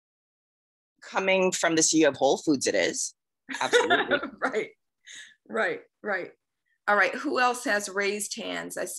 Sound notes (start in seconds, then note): 3.5 chuckles